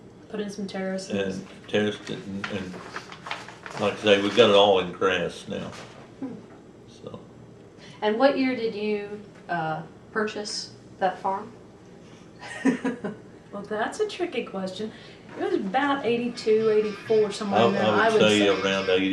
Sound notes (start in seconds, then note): 12.3 laughs